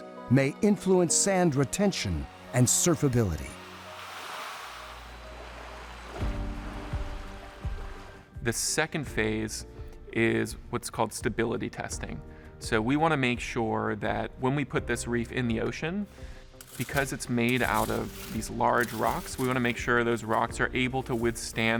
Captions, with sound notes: may influence sand retention and surfability. (waves lapping) - The second phase is what's called stability testing. So we want to make sure that when we put this reef in the ocean, because it's made out of these large rocks, we want to make sure those rocks are able to withstand